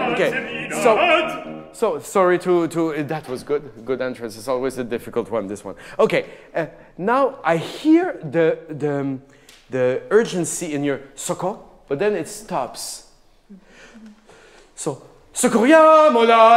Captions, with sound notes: Okay, so, sorry to, that was good, good entrance. It's always a difficult one, this one. Okay, now, I hear the urgency in your, (speaking in a foreign language) but then it stops. So (singing in a foreign language).